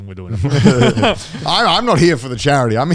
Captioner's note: men laughing